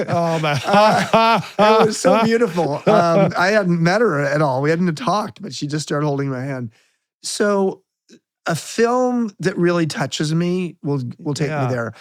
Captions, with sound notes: Oh my. (laughing) It was so beautiful. I hadn't met her at all. We hadn't talked, but she just started holding my hand. So a film that really touches me will take me there.